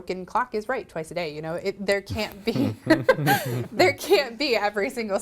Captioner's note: laughs